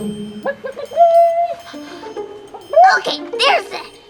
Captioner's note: clucks